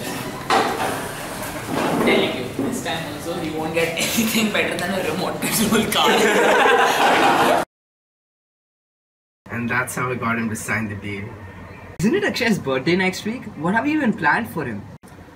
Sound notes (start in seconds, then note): 6.0 laughter